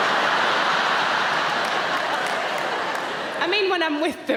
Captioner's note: audience laughing